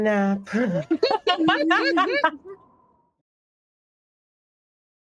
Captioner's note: everyone laughs